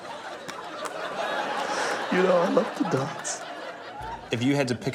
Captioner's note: audience laughs